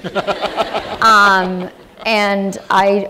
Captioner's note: laughter